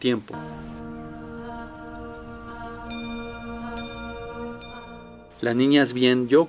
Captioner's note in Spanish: vocalización y tintineo metálico